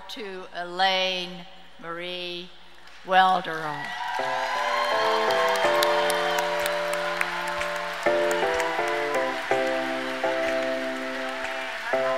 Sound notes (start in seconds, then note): 3.8 audience cheers and applauds; 4.2 slow piano music